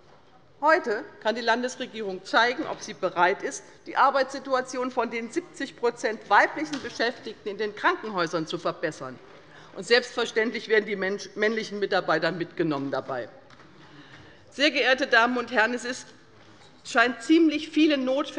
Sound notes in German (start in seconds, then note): none